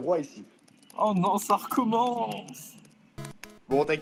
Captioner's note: keyboard